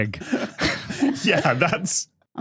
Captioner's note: others laughing